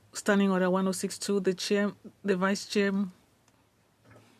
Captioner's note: speaking French